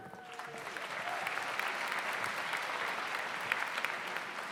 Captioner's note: audience applauds